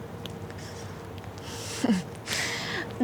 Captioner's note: Glynis chuckles